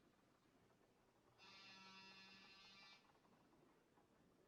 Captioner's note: buzzing